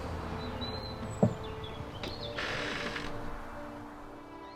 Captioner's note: birds chirping; gentle music